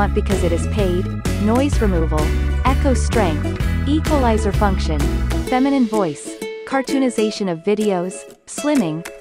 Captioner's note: feminine voice